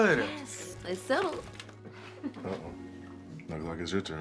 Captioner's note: bag crinkling